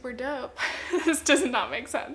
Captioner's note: chuckles